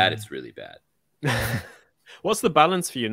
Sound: laughing

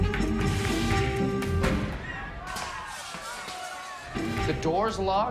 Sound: screaming

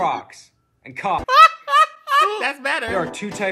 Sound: laughs

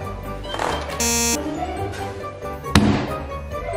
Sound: beeps; slams table

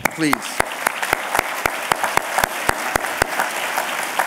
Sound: applause

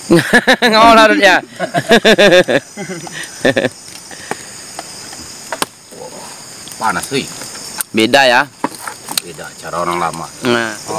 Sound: laughs

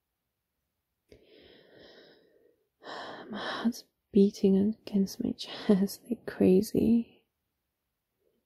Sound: deep breath

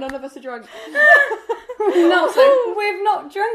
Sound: laughing

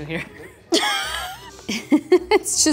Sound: laughs

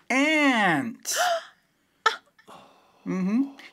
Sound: gasp

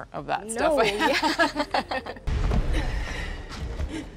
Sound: both laughing

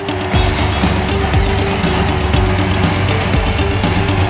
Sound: crowd cheering; upbeat music

